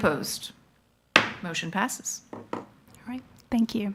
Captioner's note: gavel knocks